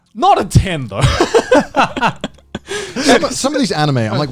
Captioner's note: laughs